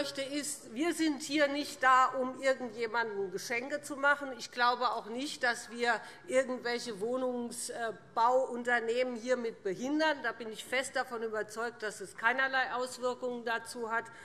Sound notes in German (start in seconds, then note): none